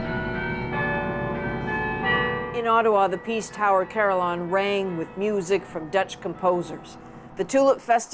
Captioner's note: bells tolling